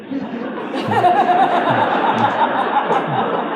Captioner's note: audience laughs